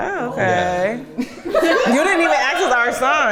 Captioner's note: everyone laughing